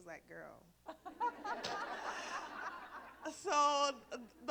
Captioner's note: laughter